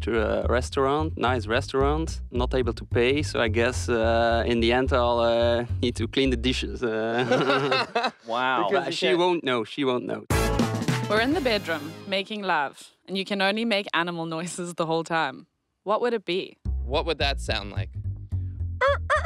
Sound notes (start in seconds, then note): 7.0 laugh; 18.8 crowing